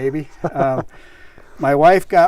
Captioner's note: laughs